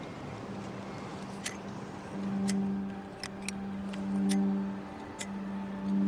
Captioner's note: lighter clicking